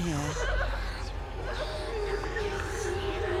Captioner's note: echoing voices